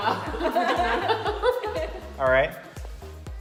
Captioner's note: laughs